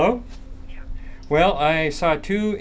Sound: voiceover

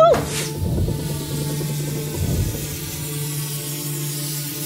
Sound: air whooshing

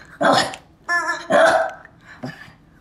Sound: squawking; ruff

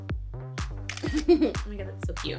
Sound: clicks

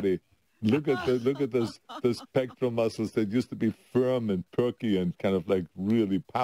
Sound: laughter

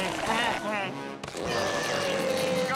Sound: grunting

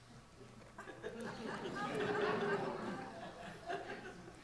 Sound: audience laughs

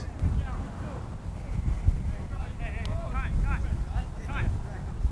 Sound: players talking and yelling

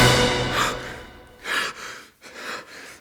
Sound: Szymon gasps

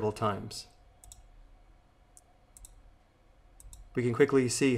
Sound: clicks mouse

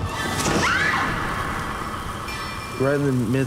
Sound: screaming

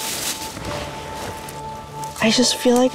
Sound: plastic bag rustling

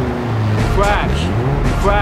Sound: crash

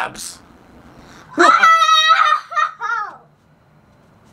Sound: cheers

